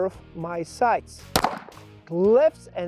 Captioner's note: gun pops